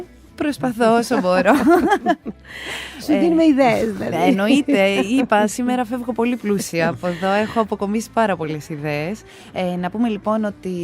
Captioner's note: chuckles